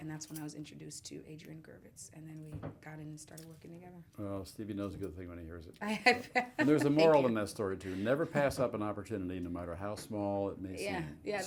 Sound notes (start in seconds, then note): 6.0 laughs